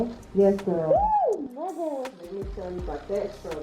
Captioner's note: surprised Exclamation